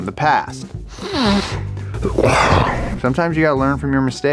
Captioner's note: clears nose